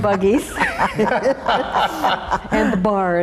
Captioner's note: all laughing